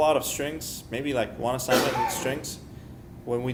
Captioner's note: coughing sound